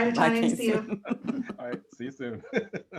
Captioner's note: laughter